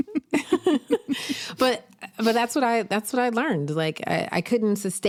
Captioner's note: laughs